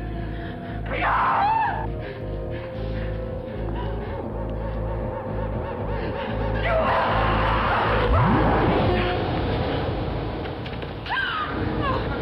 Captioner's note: screaming